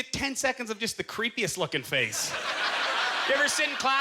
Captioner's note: audience laughter